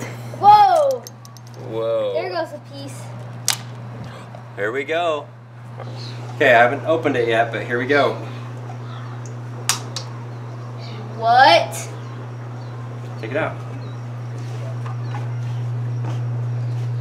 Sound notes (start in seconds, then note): 9.6 cracking